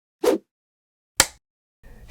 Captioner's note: whoosh, film clapper sound